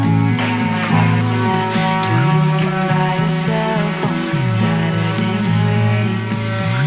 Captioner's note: clap